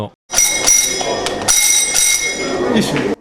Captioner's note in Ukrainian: лунають дзвоники